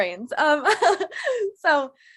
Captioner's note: laughing